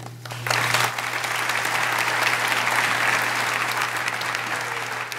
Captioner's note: audience applauding